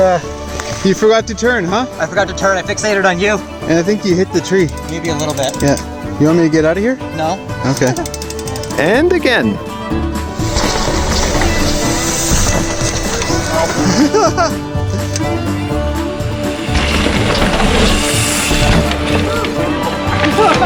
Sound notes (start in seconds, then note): 13.0 bike tires on trail; 17.4 upbeat fiddle music